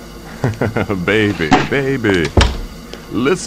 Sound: chuckles

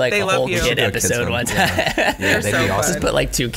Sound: laughs

